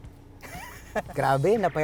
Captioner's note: laughs